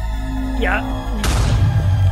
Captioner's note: explosion